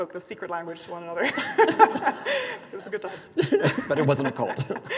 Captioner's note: both laughing; laughs